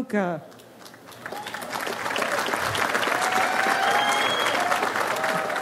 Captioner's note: audience applauds